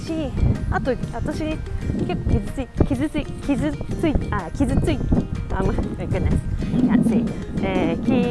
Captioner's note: having difficulty speaking Japanese